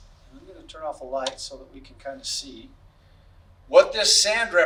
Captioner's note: crackling sound from switch